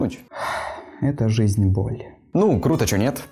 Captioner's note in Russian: тяжело вздыхаю